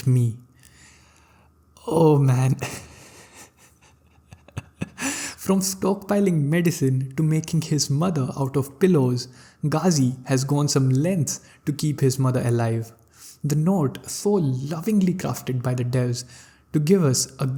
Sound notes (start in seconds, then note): 2.6 laugh